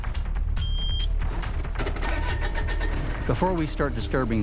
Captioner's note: beeping; engine starts